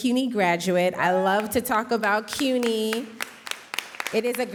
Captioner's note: audience applauding